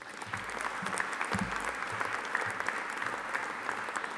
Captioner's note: audience applauding